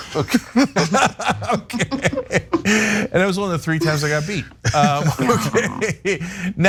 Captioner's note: laugh